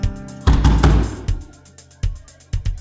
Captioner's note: knock, knock, knock